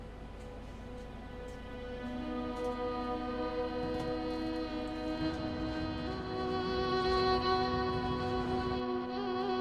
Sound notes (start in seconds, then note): 5.5 vehicle rumbling